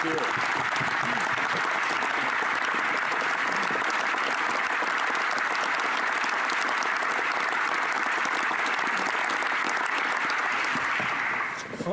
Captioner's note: applause